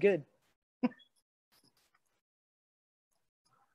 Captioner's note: chuckles